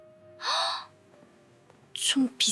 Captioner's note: gasping sound